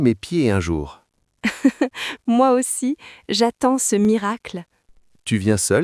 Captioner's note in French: rire